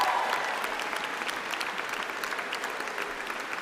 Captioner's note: applause